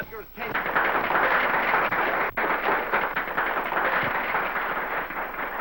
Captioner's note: applause